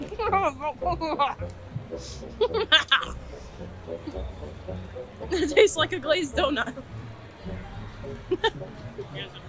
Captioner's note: muffled donut talking